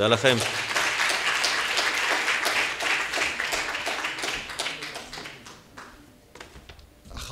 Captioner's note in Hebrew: מחיאות כפיים